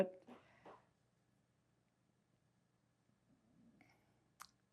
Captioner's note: pauses 6 seconds